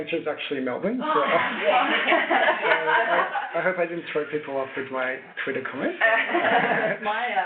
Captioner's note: laughter